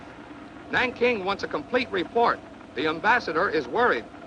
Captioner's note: man On Radio